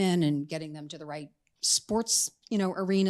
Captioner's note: none